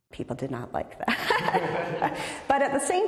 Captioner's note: both laugh